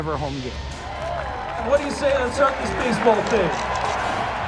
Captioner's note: crowd cheers